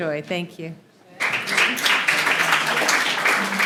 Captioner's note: applause